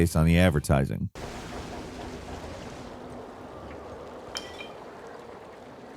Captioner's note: wind blowing; light clattering